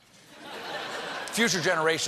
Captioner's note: laughter